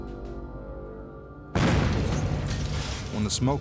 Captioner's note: dynamite explodes